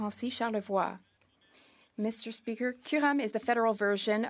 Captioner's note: speaking French